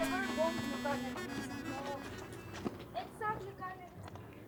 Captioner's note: indistinct chatter